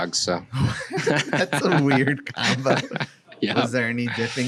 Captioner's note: laughs